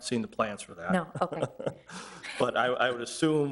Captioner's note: chuckling